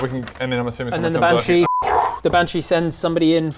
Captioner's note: whoo